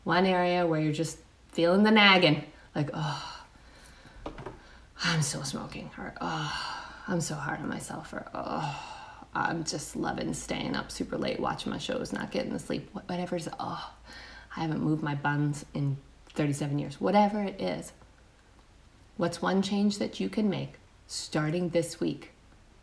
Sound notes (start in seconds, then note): 4.5 sighs; 6.6 sighs; 8.6 sighs; 14.2 sighs